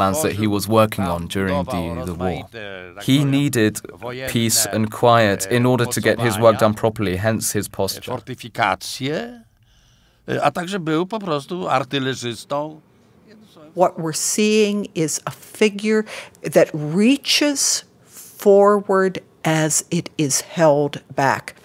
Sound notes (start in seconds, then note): 8.4 polish being spoken